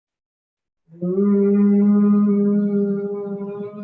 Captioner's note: humming